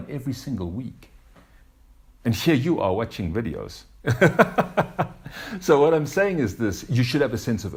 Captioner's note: laughs